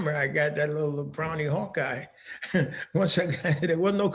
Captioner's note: laughing